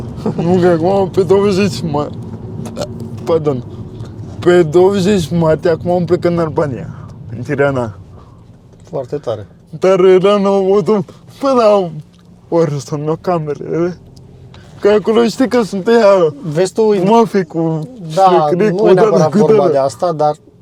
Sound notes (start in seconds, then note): 2.6 burp